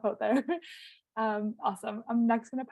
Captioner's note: laughing